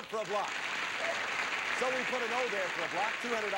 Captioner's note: audience applauding